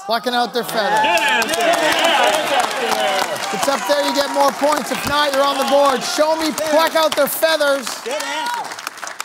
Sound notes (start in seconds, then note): 2.1 applause